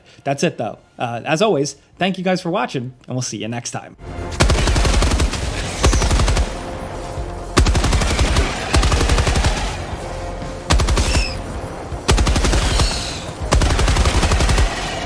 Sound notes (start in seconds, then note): 4.5 dramatic music; 4.5 guns firing